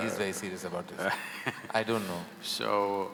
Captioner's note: Sadhguru laughs